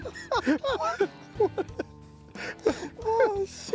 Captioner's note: both laughing